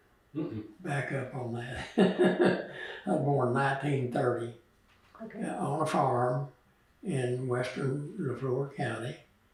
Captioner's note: laughs